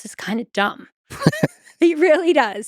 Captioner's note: Lex laughs